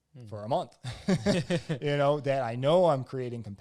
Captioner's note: both laugh